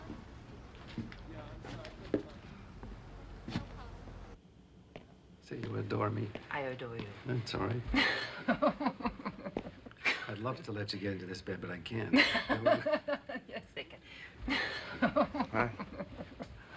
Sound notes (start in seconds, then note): 7.9 Linda laughs; 12.1 laughing